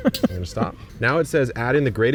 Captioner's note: laughing